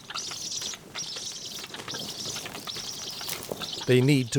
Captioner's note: storks nattering